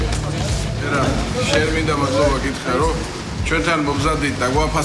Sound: speaking foreign language

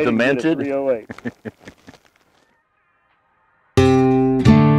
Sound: laughing; country music

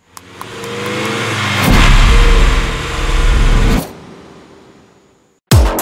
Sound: car engine roaring

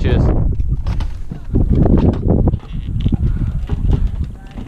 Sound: wind blowing loudly

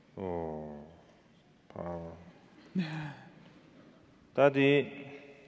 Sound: speaking in foreign language

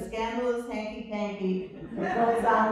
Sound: laughter

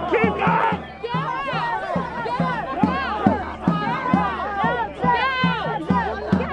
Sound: sounds of a crowd with drumming

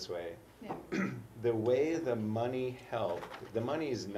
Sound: cough

